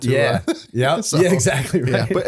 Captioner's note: laughter